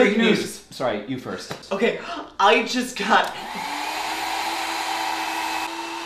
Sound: blender noise

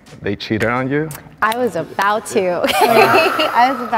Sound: claps; laughs

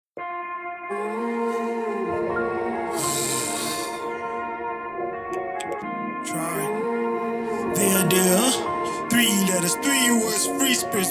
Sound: sigh

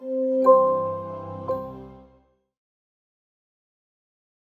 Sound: light chiming

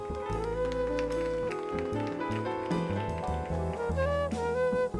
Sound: audience applauds

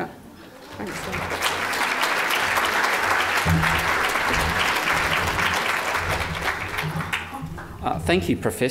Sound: audience applause

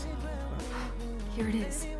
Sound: gasps

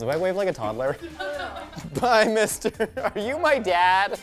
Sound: laughs

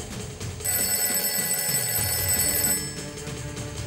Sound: phone rings

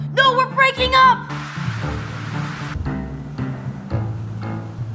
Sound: TV static

